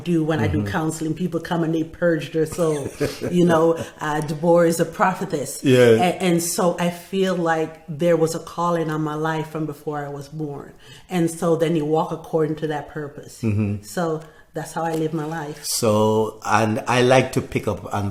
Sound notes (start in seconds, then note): 2.5 laughing